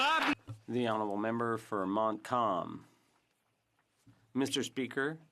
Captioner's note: some Applause